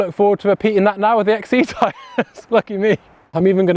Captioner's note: laughs